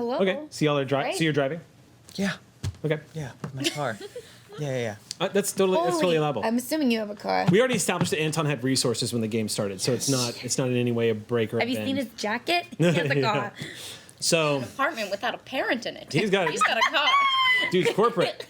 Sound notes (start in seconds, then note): 4.1 laughing; 16.2 laughing